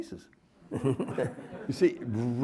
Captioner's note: everyone laughing